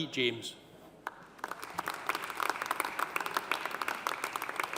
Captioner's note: audience applauding